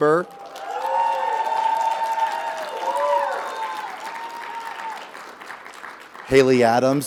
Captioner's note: audience applauding; audience cheering